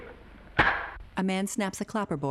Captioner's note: slate slamming